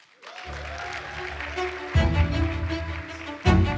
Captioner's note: applause; orchestral music